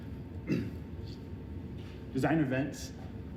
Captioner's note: clearing throat